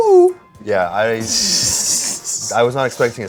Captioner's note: chuckles